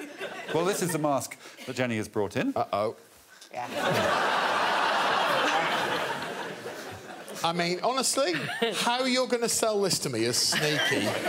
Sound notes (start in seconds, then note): 3.7 audience laughing